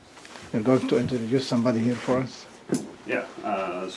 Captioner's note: none